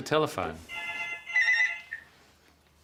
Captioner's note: phone rings